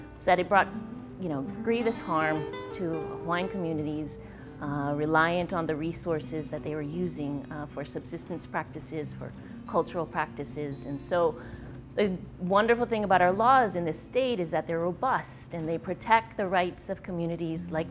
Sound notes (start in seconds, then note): none